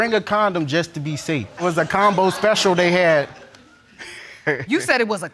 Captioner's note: audience laughing; chuckles